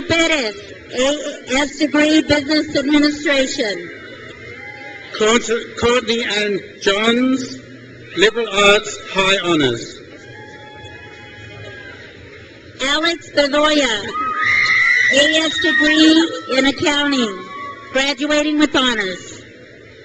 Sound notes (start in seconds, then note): 3.6 crowd cheers; 10.0 crowd cheers; 14.0 crowd cheers